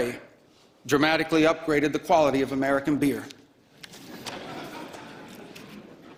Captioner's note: laughter